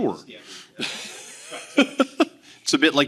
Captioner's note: laughing